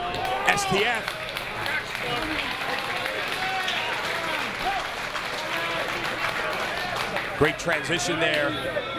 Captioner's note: applause